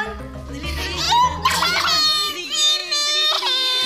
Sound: Anne cries

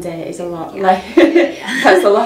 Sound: laughter

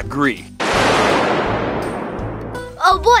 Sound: thunder crashing

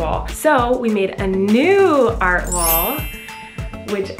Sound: sparkling

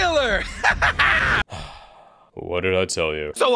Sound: evil laff; sigh

